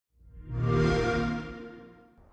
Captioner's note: xbox sound